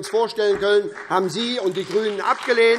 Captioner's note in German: Beifall SPD